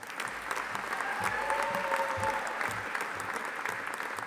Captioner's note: audience applauding